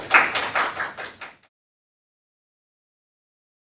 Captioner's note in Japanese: 拍手